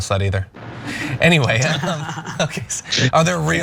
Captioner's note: laugh